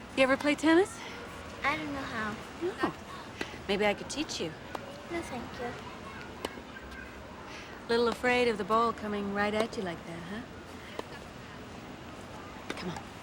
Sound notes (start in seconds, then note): none